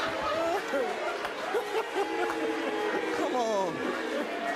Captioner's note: audience jeers